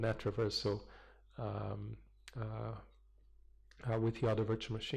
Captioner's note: pause